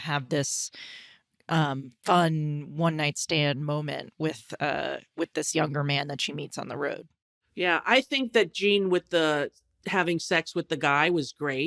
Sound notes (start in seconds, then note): none